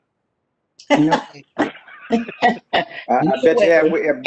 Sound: laughter

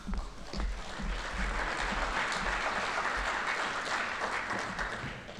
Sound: audience applauding

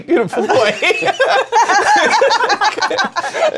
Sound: laughter

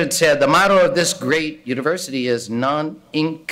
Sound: speaking in foreign language

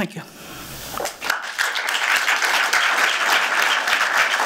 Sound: applause

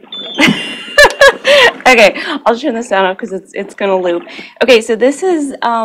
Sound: laughs

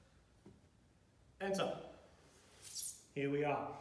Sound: floor squeaks

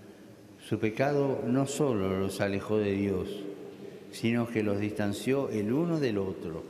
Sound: speaking Alternate Language

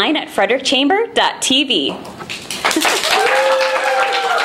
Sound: applause and cheering

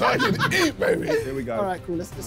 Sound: laughing

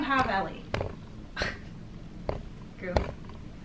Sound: scoffs

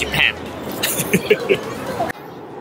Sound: laughs

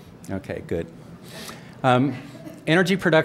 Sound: laughter

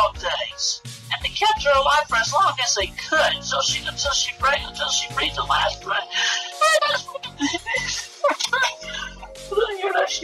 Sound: starts crying

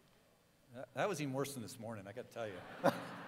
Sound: cheering

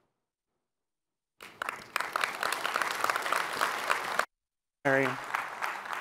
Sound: applause

